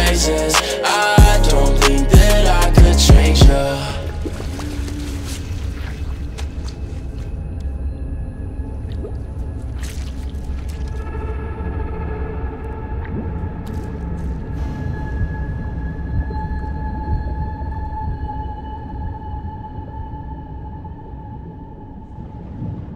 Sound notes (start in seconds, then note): 4.0 bubbles sound; 12.6 drip drip